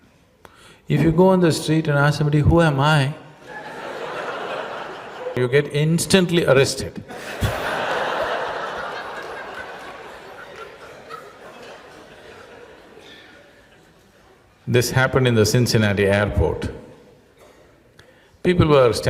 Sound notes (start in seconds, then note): 10.6 laughter